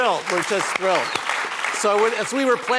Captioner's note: applause